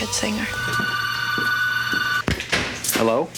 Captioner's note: phone rings